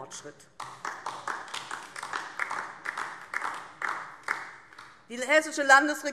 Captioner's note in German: Beifall DIE LINKE